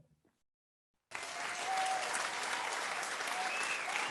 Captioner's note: crowd cheers